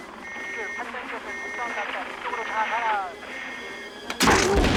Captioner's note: beeping